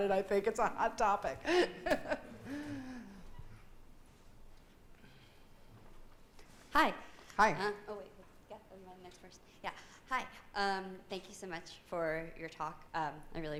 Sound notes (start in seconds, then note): 1.4 laughing